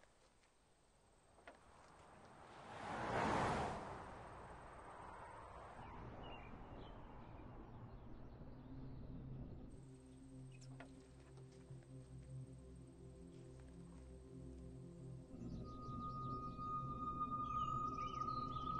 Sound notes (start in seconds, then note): 6.8 birds chirping; 15.3 ominous ambient music